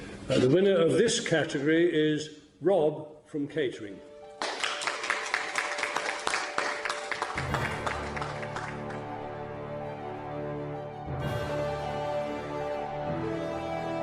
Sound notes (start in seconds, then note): 4.3 clapping; 5.2 dramatic music